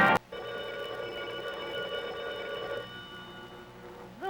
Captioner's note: phone rings